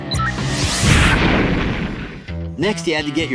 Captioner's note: explosion